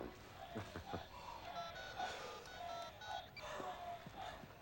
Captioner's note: dialing cell phone